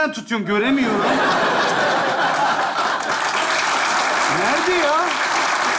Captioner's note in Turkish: Kahkaha ve alkış sesleri